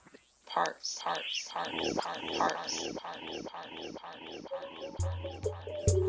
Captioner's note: echoes